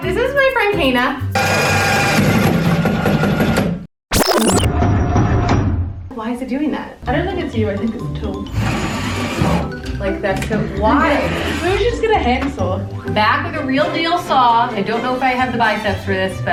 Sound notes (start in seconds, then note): 1.5 buzzing; 1.5 thumping